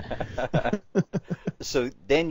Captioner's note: both laughs